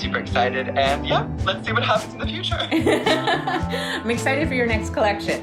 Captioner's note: laughter